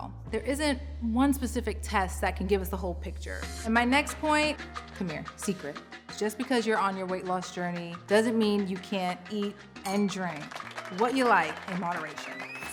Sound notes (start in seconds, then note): 10.0 hands clapping; 10.7 people whistling